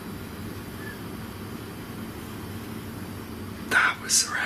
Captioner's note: whistle in distance